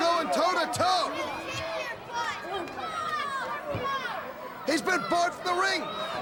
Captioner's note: crowd chatter